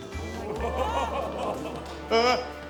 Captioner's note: audience exclaims